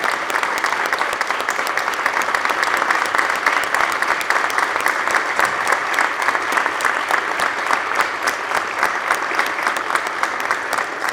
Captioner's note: applause